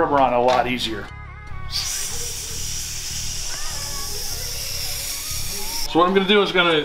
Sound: fake spray noise

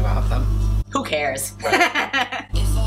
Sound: laughs

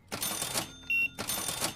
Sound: beeping

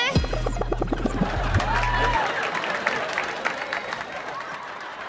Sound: applauding

